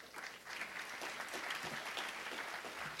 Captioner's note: applause